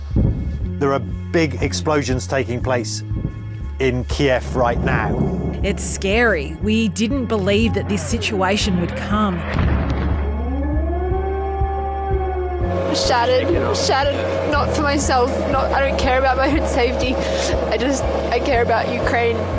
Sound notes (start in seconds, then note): 9.4 explosion; 10.0 siren wails